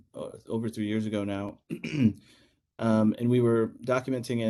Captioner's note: cough